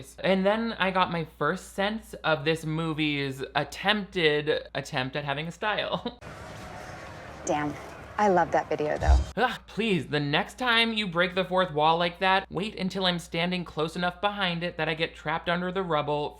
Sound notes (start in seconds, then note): 6.8 laughs